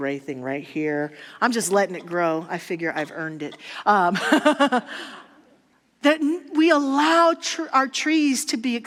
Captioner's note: audience laughter